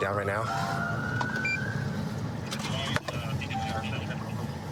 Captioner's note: police siren